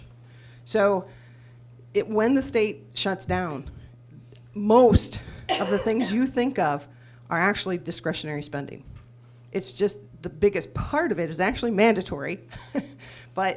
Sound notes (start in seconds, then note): 5.4 coughs; 12.9 laughs